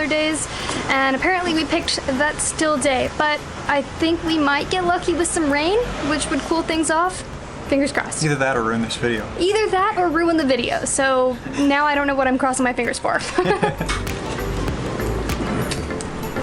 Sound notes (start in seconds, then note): 13.2 laughter